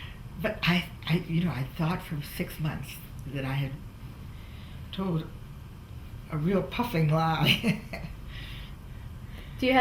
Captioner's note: laughs